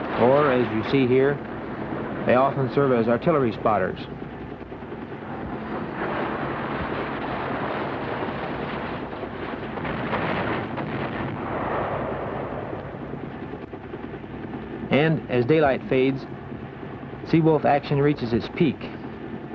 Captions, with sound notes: Or, as you see here, they often serve as artillery spotters. (explosion) And, as daylight fades, Seawolf action reaches its peak.